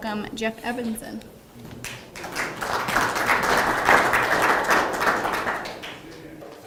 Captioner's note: audience applause